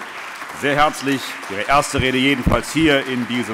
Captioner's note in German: Allgemeiner Beifall